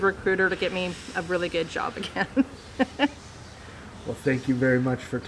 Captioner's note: chuckles